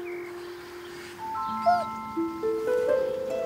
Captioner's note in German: Winseln